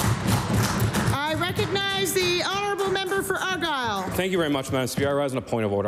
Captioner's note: applause